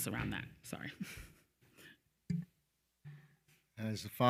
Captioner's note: chuckles